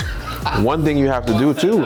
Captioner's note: laughter